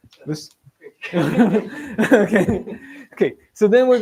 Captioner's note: laughter